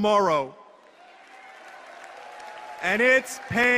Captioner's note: applause